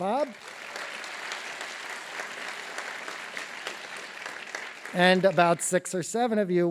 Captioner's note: applause